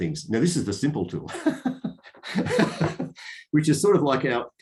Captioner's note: laughs